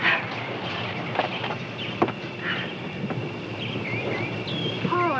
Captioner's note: birds tweeting